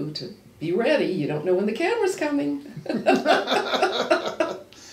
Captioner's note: laughs